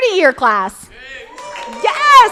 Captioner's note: crowd applauding